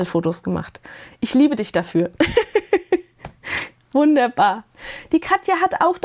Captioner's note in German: gelächter